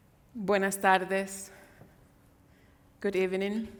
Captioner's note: speaks in Spanish